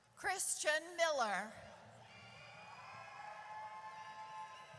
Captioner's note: audience cheers